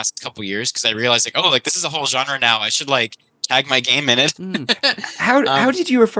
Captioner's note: laughs